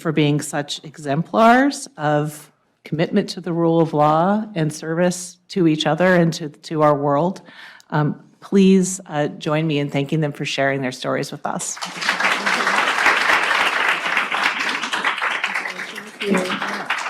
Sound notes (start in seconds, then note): 11.7 audience applauding